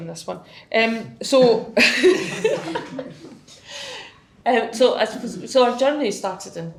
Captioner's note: laughs